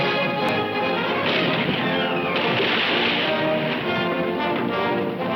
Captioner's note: cannon firing